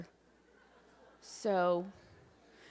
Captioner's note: audience laughs